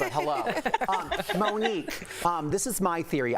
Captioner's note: laughter